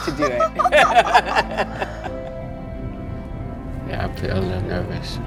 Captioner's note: both laughing